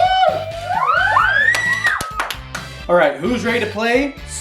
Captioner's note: all cheering